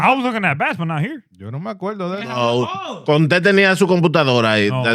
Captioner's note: speaking In Foreign Language